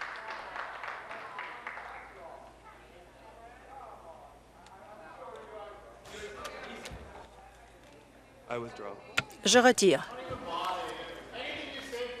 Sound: applause

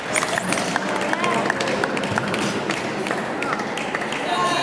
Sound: applause

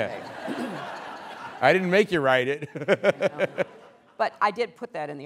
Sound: laughter

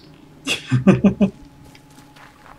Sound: chuckles

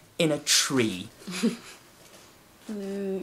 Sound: laughs quietly

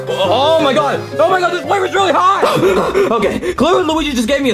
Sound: upbeat music; pants

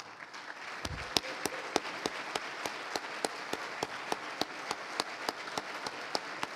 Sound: applause

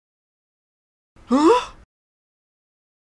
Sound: sound of scared man

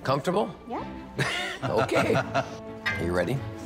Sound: chuckles

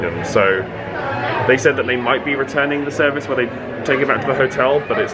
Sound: none

